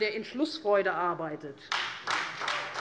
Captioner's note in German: Beifall